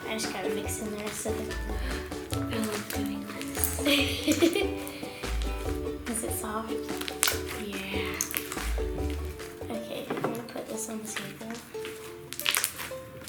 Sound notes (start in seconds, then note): 3.8 laughter